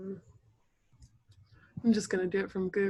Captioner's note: silence